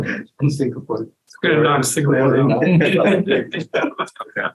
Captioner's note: laughs